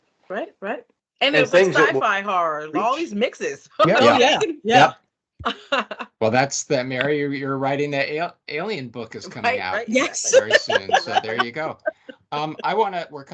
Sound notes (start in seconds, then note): 6.2 chuckling; 10.4 laughing